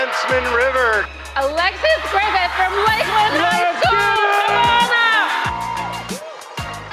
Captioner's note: cheering